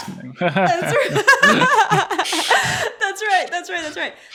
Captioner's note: both laughing